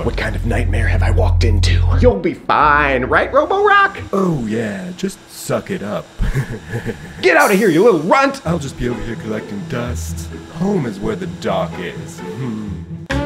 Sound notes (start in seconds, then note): 6.1 laughs; 12.5 chuckles